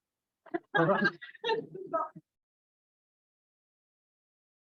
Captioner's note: laughs